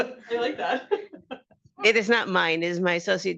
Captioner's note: laughing